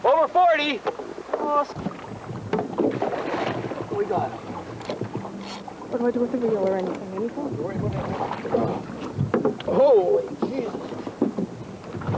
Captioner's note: water sounds